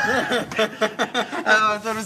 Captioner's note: group laughter